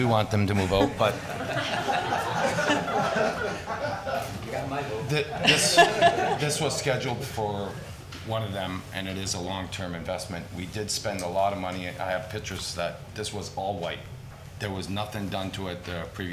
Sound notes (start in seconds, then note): 0.5 crowd laughing